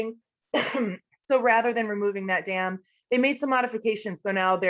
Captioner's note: cough